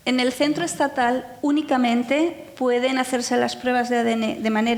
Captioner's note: speaking in foreign language